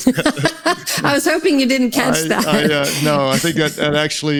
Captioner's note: laughs